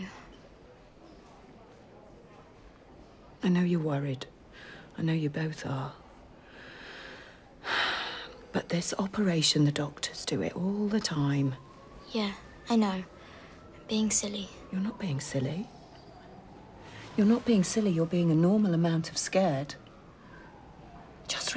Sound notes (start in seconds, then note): 4.7 sighs